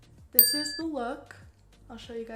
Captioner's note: ding